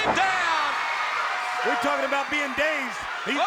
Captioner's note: crowd cheering